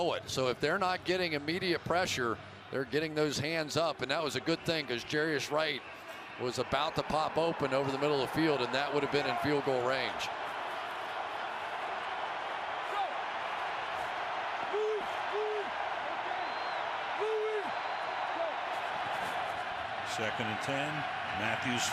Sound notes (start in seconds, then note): 4.7 cheering